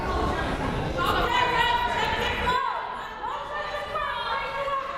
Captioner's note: players shouting